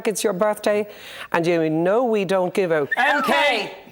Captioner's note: whistles